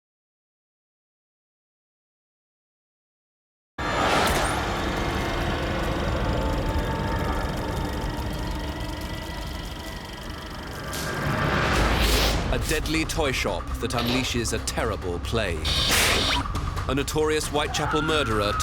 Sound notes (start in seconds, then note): 4.0 eerie music; 4.0 film reel whirring